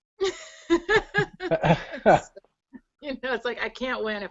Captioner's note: laughs